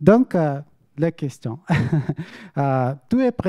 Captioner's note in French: rires